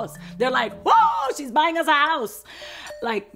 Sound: screams in excitement

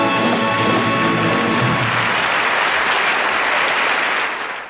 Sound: audience applauding

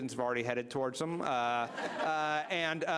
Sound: laughter

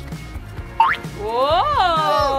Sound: boink sound effect

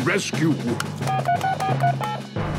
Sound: phone beeping; phone ringing

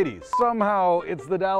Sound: beep

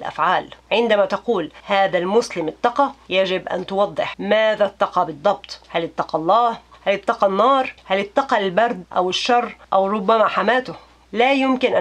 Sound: in Arabic

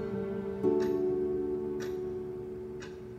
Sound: clock ticking

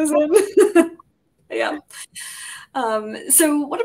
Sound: all laughing

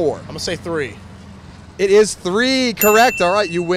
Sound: bell dinging

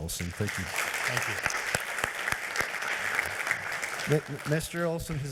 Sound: members applauding

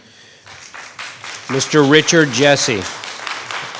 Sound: audience applauds

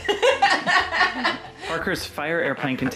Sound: laughter

